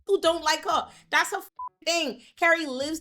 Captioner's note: beep